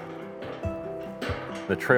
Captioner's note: metal clanking